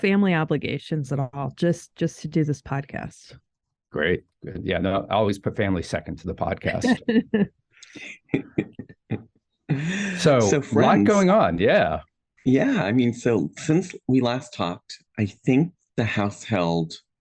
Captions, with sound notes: - No family obligations at all, just to do this podcast. - Great. I always put family second to the podcast. (all chuckling) - So, friends. - So, a lot going on. Yeah! - Yeah. I mean, since we last talked, I think the House held